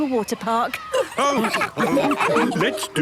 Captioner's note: all laughing